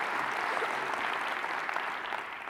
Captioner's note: laughter